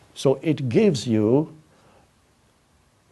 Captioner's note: none